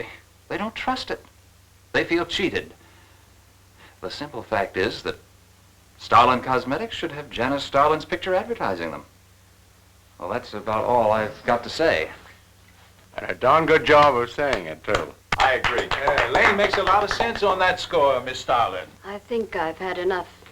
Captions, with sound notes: they don't trust it. They feel cheated. The simple fact is that Starlin Cosmetics should have Janice Starlin's picture advertising them. Well that's about all I've got to say. And a darn good job of saying it, too. I agree. (applauding) Lane makes a lot of sense on that score, Miss Starlin. I think I've had enough